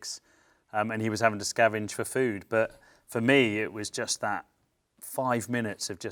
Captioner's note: none